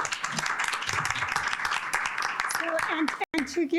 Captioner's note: audience applauding